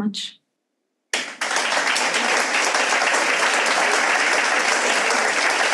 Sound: audience applauds

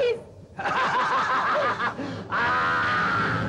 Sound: laughs

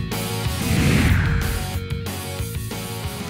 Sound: whoosh

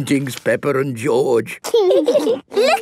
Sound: laughing

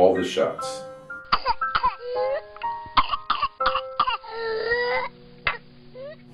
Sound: coughing

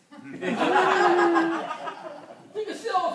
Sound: group laughs; speaking foreign language

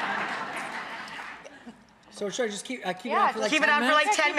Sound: audience laughs

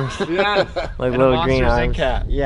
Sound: laughing

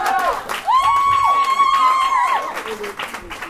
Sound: applause

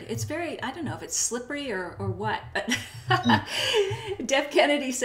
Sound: laughs

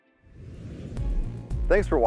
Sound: whooshing

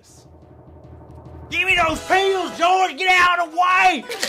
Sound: In Lumber Baron voice

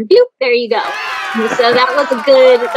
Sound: crowd cheering

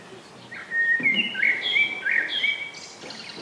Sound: birds chirping

